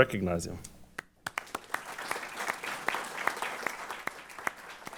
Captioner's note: applause